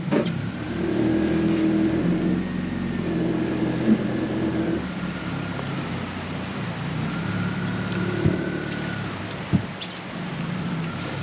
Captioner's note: boat enging running